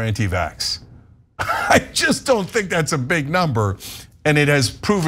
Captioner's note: laugh